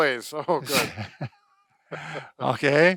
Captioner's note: laughter